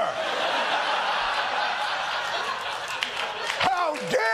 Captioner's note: laughter